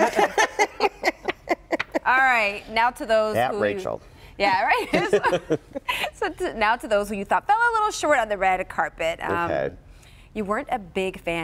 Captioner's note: laughter